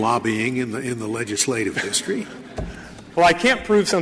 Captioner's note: laughter